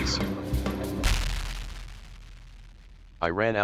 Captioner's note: Pryroplasm exploding